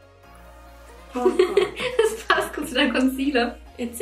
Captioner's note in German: lacht